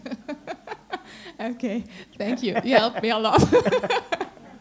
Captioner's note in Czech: smích